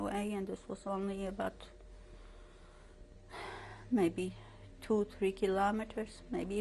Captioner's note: sighs